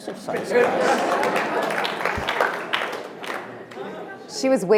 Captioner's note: audience applauding